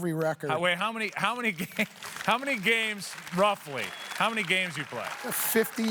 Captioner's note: applause